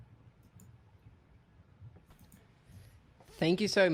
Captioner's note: mouse clicking